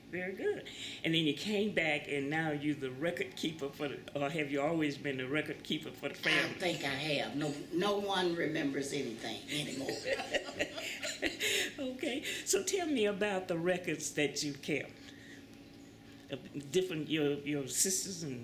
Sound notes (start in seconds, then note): 9.6 laughter